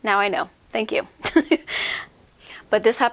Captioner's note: giggle